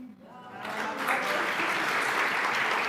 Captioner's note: applause